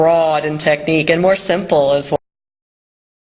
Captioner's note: audio cuts out